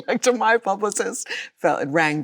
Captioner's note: Chloe laughs